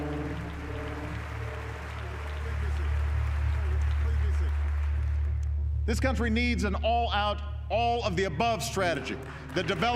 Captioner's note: audience applauding